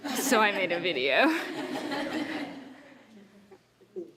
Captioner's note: laughter